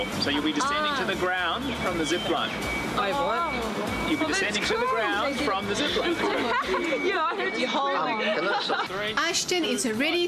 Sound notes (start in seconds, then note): 5.8 laughs; 9.1 narrating